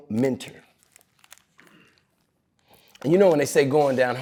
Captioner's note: pages rustling